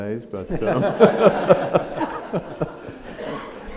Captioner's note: audience laughs